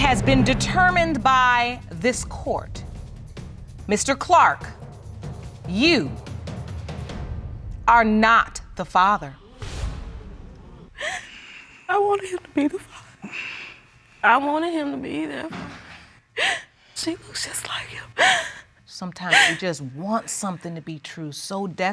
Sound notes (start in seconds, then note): 11.0 sobs; 19.2 sobs